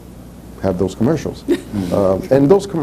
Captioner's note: laughs